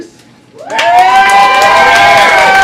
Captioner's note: crowd Cheering